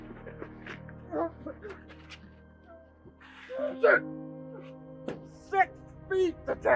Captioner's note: sounds of struggle